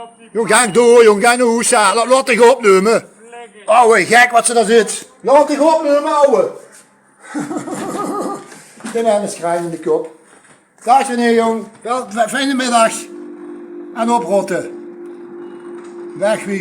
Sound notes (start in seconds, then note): 7.2 lacht